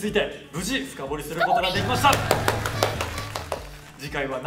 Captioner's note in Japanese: パチパチパチ